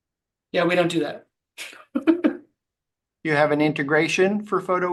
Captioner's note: laughing